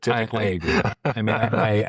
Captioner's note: both Laughing